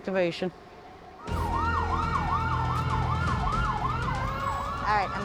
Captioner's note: ambulance sirens